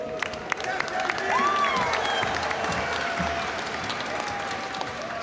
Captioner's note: audience cheering and applauding